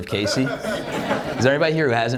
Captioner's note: audience laughs